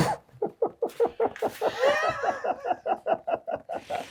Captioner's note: laughing